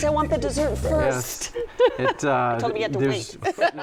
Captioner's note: laughs